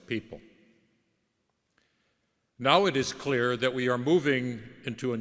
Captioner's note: none